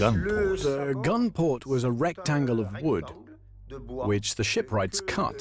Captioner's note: voiceover